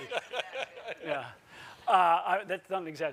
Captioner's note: laughter